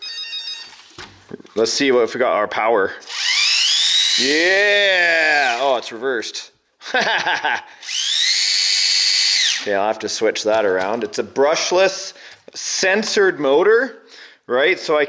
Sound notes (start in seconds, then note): 0.0 beeping; 3.0 wheels whirring; 6.9 laughs; 8.6 wheels whirring